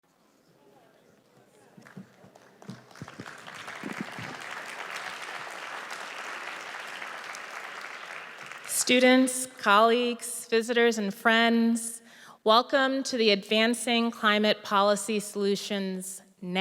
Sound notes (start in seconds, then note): 6.1 audience applauds